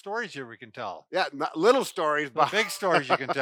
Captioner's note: laughs